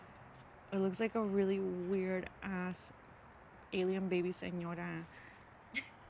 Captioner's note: spanish phrase